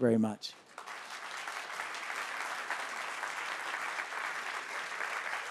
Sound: applause

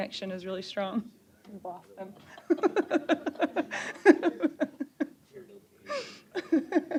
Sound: laughing

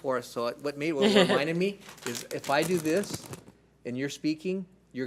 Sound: crinkles bag

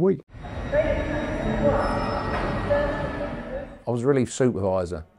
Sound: station announcer speaking

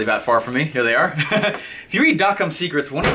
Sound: laughing

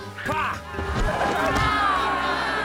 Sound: crowd; sighing

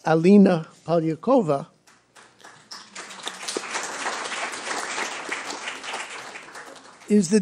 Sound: applause

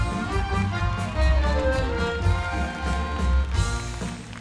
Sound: crowd cheers and claps

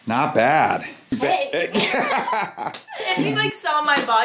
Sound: both laughing

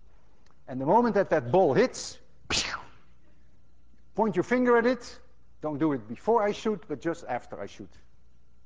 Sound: whooshes

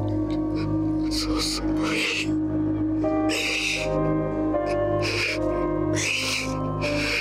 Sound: sobbing; sad piano music

